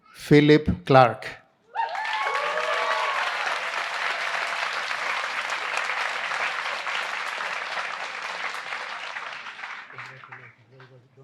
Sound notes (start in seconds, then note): 2.6 applause